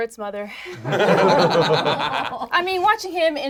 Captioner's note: group laughs